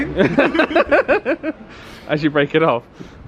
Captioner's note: laughs